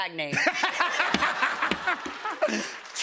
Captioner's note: laughter